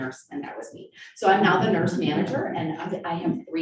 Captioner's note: group laughing